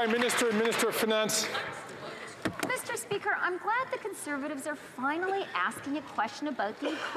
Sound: some Applause

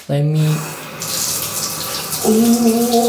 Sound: water runs

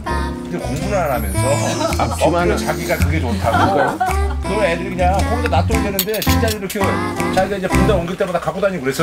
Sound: slurp!

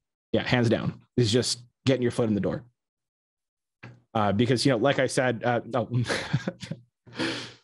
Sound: laughs

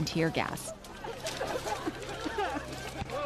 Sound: coughing

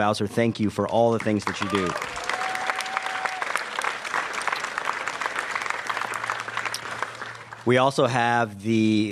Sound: applause

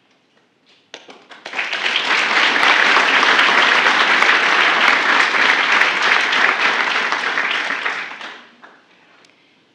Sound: applause

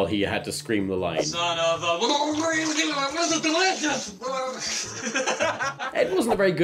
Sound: gargling

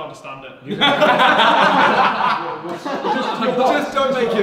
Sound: laughing

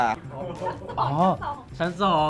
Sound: laugh

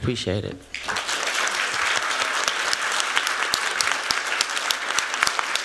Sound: applause

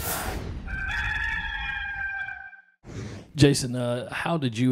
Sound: rooster crows

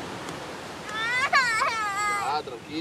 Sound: girl starts tantrum

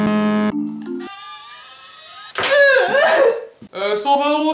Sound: cries

